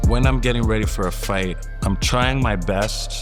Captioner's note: none